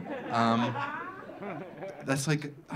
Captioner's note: audience laughing